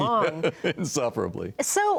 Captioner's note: laughs